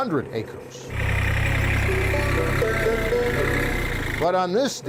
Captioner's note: tractor motor roaring